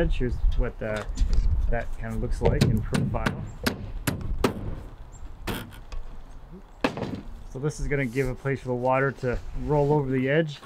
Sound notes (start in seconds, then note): 3.6 hammer banging loudly drowns out